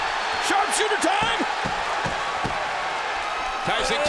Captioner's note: crowd cheers